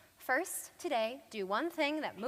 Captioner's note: none